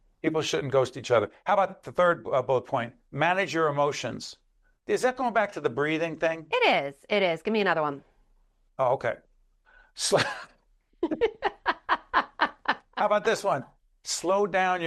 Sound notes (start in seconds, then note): 11.0 both laughing